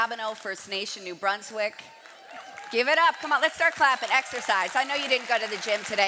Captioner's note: cheering and Applause